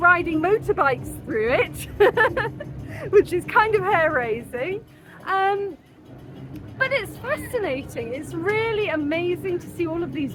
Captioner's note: laughing